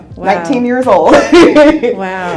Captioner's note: laughs